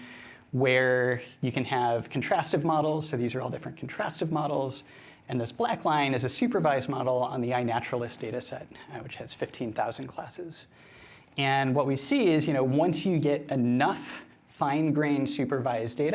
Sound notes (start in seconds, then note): none